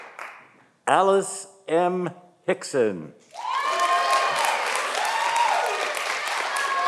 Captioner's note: audience applauding